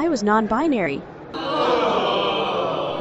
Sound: Gensokyo's collective groans

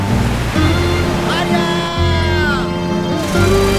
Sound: fishermen cheer

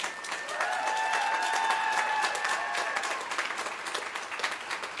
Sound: applause

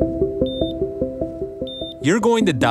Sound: light music; hospital machines beeping

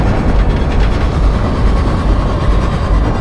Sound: muted screaming

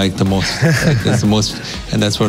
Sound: laughing

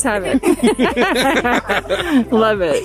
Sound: laugh

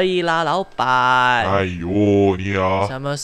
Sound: annoyed noises

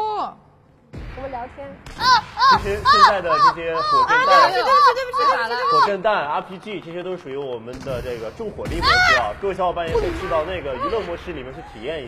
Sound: screaming

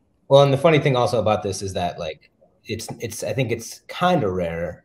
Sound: none

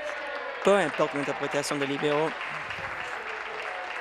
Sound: applause

